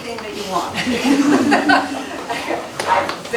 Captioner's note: laughter